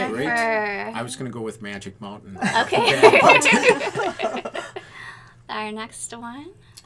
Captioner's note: all laughing